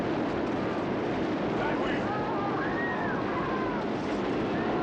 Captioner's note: screaming Continues